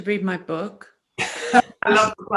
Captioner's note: laughing